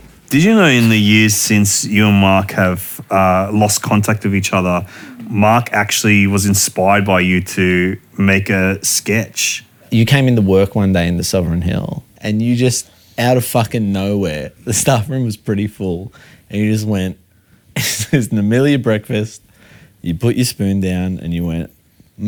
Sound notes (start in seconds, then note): 17.8 chuckles